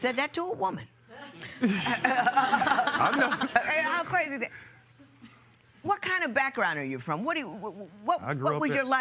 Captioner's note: laughter